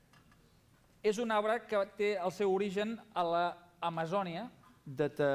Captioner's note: non-english speech